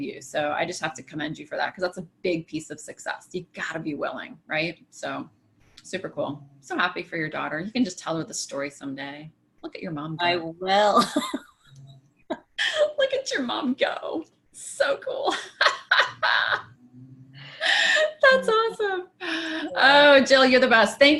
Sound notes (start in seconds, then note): 11.9 laughs; 15.4 laughs